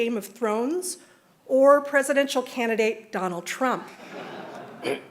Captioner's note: laughter